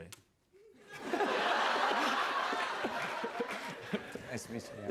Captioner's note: laughter